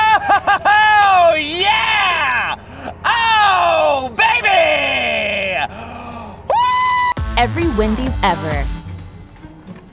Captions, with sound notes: Oh, ho, ho, ho! Yeah! Oh baby! Woo! - [Voiceover] Every Wendy's ever.